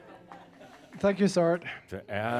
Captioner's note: more chuckles